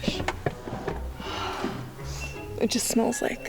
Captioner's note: gasps; sniffs